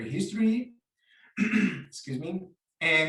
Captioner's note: coughs